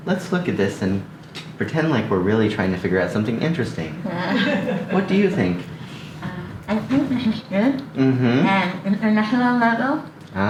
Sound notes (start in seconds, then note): 4.0 laughs